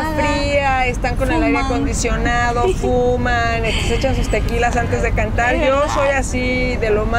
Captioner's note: laughs